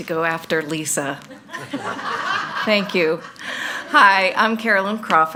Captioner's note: all laughing